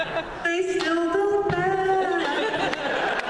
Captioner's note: laughter; laughter